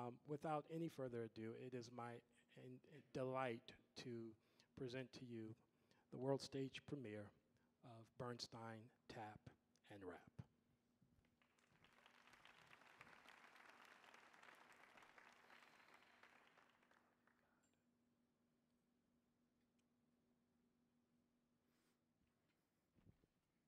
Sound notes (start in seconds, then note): 11.4 audience applauding